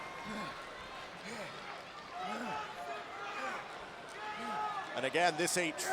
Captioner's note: none